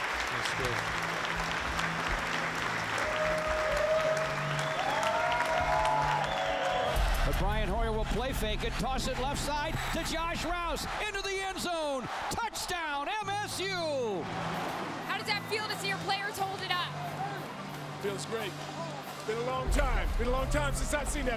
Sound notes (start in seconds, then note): 2.1 crowd cheering